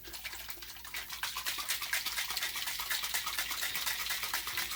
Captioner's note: water running